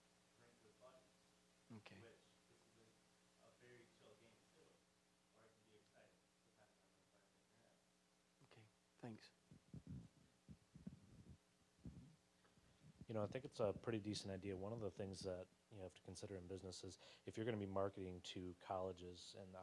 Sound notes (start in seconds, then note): none